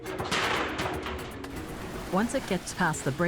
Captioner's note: metal clacks